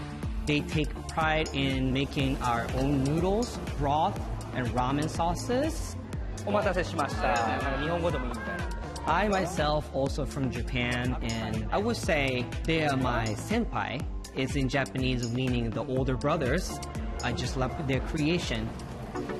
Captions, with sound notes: They take pride in making our own noodles, broth, and ramen sauces. [ Speaking Japanese ] I myself, also, am from Japan, and I will say they are my senpai, is in Japanese, meaning the older brothers. I just love their creation.